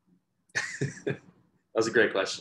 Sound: laughter

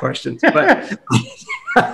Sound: both laugh

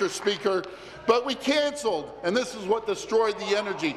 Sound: applause

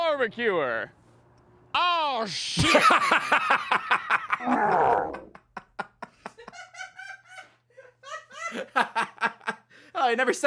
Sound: laughs; cackling

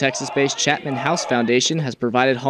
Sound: nat sound cheering

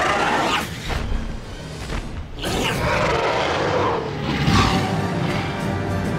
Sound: large thudding footsteps; triumphant music

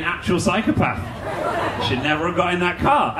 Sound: audience laughing

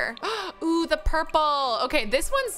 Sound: gasps

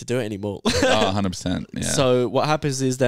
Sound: laughs

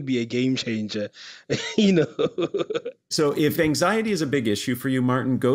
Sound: laugh

